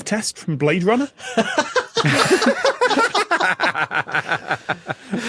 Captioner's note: cackle